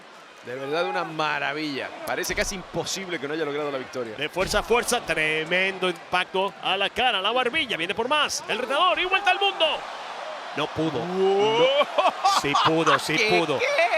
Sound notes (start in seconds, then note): 11.6 laugh